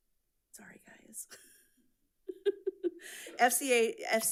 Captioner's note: giggles